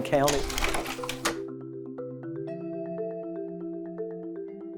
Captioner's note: slide projector clicks